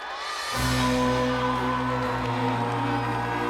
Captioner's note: audience cheering